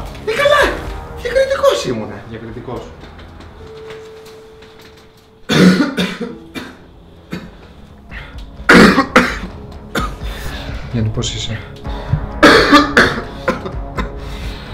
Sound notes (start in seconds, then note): 5.5 coughs; 12.3 coughs